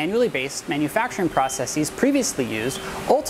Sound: beeping sounds made when the probe touches the part

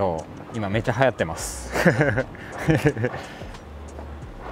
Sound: laughs

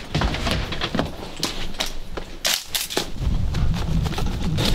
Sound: breathing heavily

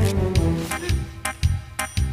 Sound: gasps

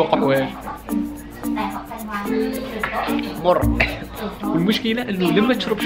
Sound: caughs

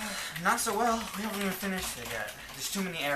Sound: sigh

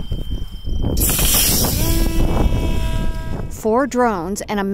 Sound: drone squeals; winds blows

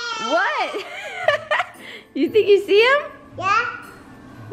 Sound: laughs

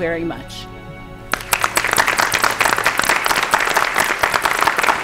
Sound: clapping

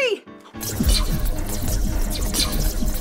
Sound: sci-fi buzzing

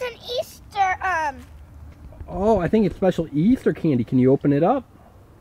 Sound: voiceover

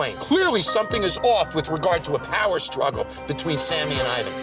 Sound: none

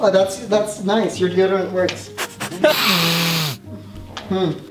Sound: sniffing noise

